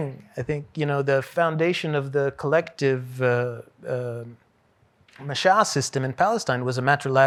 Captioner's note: hebrew